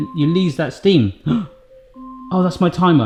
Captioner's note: alarm chiming; gasps